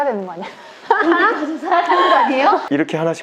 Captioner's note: laughter